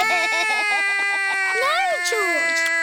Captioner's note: george laughs; cries